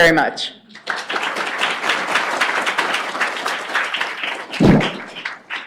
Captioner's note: applause